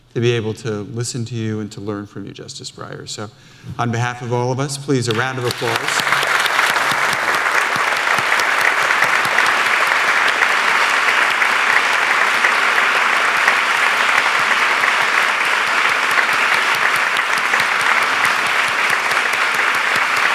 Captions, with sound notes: to be able to listen to you and to learn from you, justice Breyer, so on behalf of all us, please a round of applause. (applause)